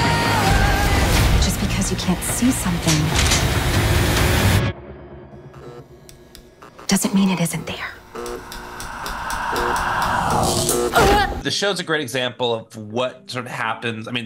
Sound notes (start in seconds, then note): 0.1 upbeat music; 8.6 light buzzing; 8.6 group screaming